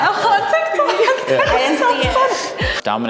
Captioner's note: all laugh